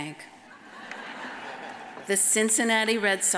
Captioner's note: audience laughs